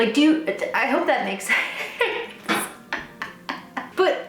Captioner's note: laughs